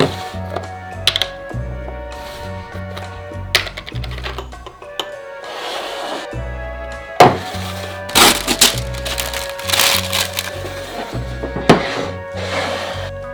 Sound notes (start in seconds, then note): 8.0 paper ripping